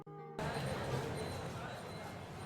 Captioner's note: street sounds